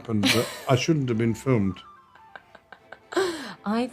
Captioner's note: laughs